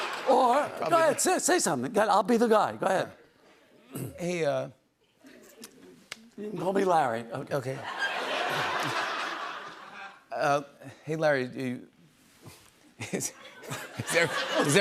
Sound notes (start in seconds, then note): 7.8 laughter